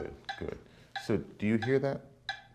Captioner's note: ticking